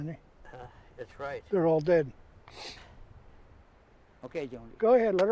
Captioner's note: sniffles